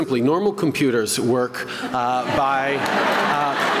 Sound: laughter, applause

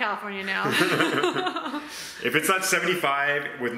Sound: laughing

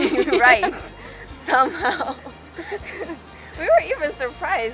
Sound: laughing

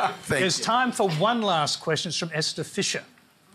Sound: laughs

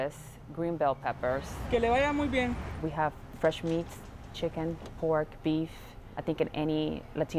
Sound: speaking Spanish

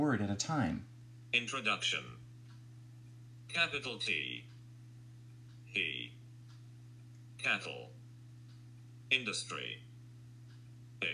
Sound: computer Talking

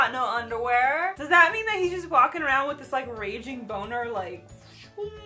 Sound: sound effect

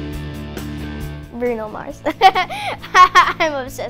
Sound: laughs

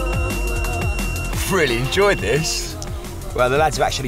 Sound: rod beeping loudly

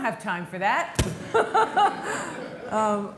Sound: laughter

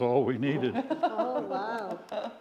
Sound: laughs

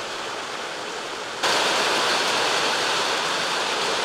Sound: hail thudding

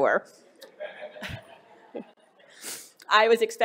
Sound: laughter

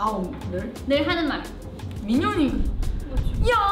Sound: speaks in Korean

